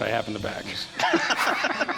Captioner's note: laughs